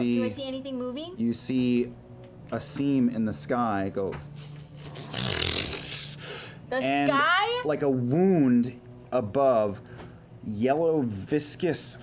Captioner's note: ripping